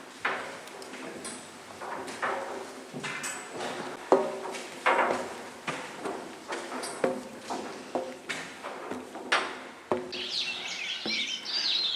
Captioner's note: footsteps on metal stairs; birdsong